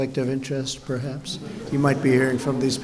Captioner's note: laughter